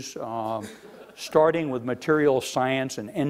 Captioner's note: laughing